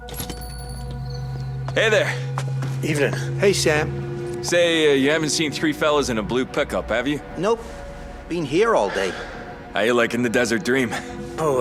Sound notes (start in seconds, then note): 0.0 door bell jingling